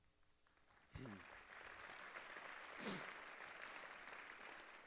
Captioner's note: applause